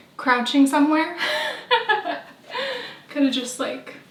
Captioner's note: laughing